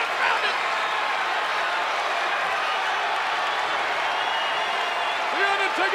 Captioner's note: audience continues cheering